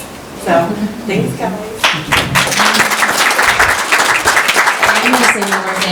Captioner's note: applause